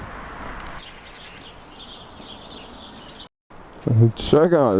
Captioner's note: birds chirping